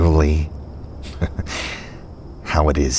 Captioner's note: Houston chuckles